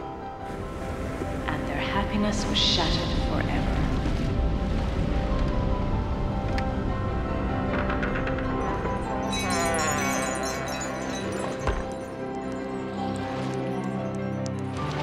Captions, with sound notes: And their happiness was shattered forever. (chimes tinkling)